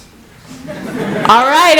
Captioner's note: laughter